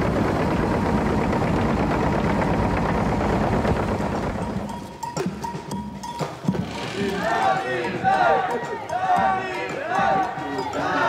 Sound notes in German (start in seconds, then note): 4.9 Getrommel; 6.7 Laute Rufe im Chor